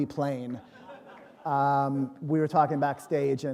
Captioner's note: laughter